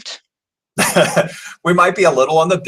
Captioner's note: laughing